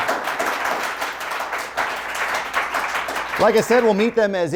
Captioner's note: audience applause